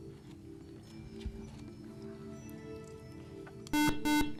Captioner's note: whispering